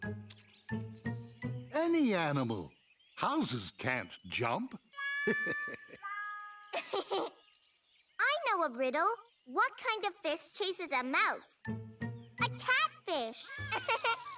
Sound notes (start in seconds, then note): 5.2 laughing; 6.7 giggling; 13.5 giggling